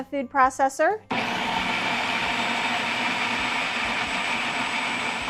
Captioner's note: machine buzzing